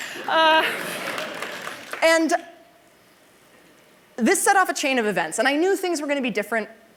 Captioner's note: applause